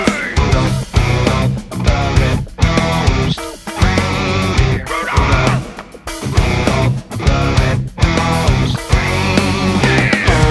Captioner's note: clip of “ ” screams